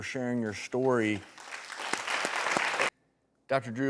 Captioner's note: audience applauding